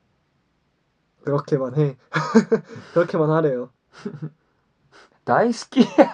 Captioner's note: laughs